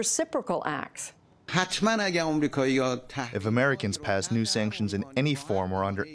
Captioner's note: through translator